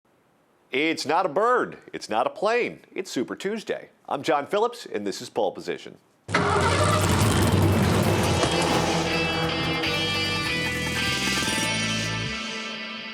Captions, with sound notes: - It's not a bird, it's not a plane, it's Super Tuesday. I'm John Phillips and this is Poll Position. (engine starting) (engines revving) (dramatic music)